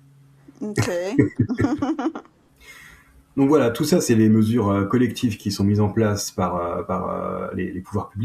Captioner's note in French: rires